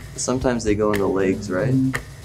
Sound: clocking ticking

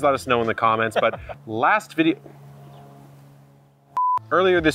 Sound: airplane humming

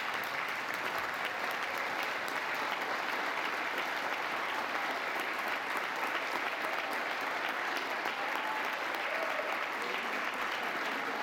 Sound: applause

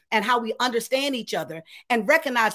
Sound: none

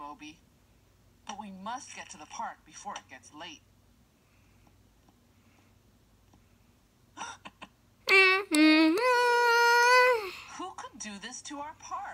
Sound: gasp!

